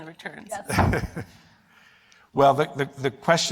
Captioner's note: laughter